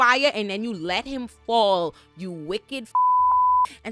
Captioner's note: beep